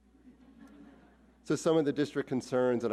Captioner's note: audience laughs